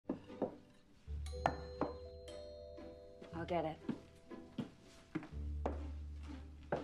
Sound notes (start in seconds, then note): 1.2 doorbell